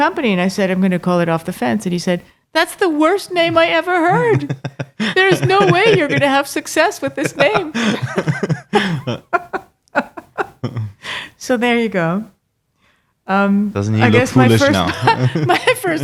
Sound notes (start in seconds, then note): 8.2 laughing